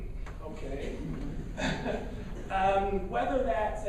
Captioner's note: laughing